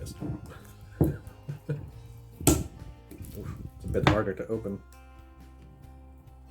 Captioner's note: laughs